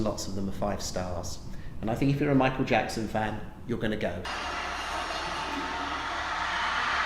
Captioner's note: screaming fans